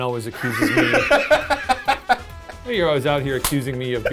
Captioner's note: laughing